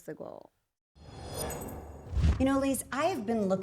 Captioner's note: scene whooshing